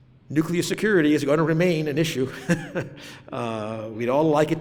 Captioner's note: laughs